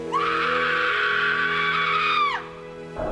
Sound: screams

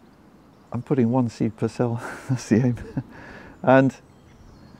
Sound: chuckles

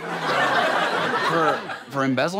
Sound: audience laughter

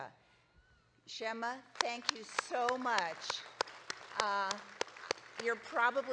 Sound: audience claps

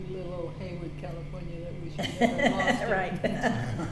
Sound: laughs

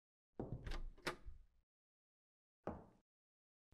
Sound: door opening

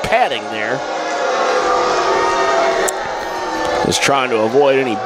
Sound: crowd boos

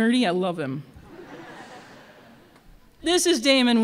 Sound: laughter

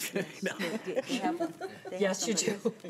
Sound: laughing

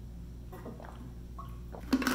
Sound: gulps

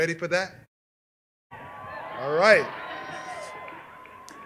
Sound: cheers and applause

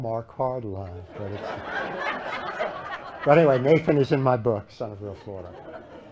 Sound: laughter

